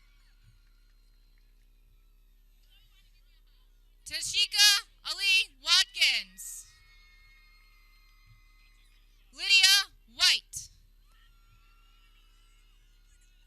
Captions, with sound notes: Tashika Alee Watkins (people cheering) Lydia White